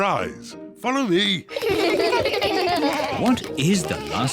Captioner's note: kids laugh